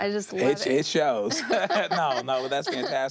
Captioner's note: both laugh